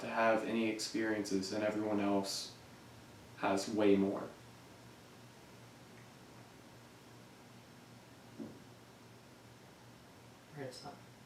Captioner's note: thump